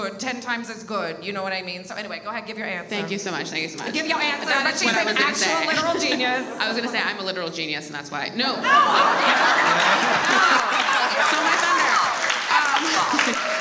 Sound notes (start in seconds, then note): 8.6 all laugh; 9.2 audience applauds